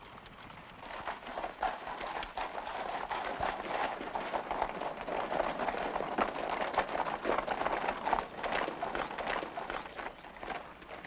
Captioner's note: hooves trotting faintly; hooves trotting